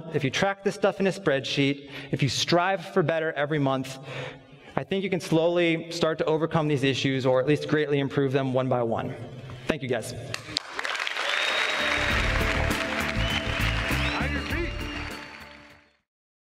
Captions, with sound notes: if you track the stuff on a spreadsheet, if you strive for better every month, I think you can slowly start to overcome these issues, or at least greatly improve them one by one. Thank you, guys. (applause) (upbeat music)